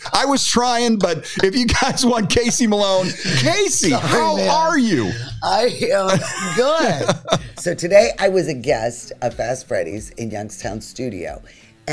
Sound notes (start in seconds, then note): 6.5 laughs